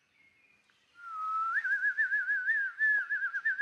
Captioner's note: whistling